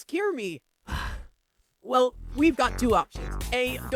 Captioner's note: sigh